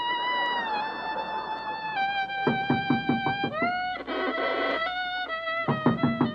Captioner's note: knocking